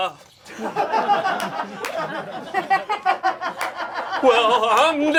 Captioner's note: audience laughing